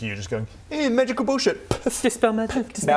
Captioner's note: poof!